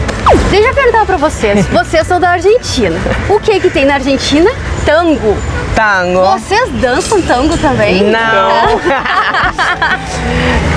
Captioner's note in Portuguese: risos